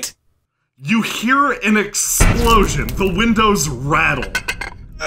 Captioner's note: you hear an explosion. The windows rattle